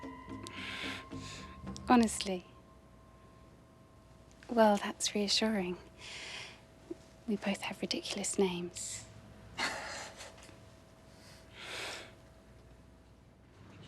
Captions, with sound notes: - Honestly? Well, that's reassuring. We both have ridiculous names. (Ludo laughing)